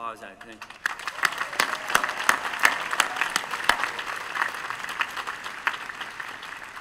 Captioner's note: applause